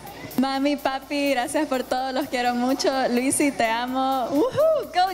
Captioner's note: speaking foreign language